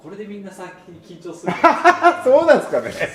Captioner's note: laughs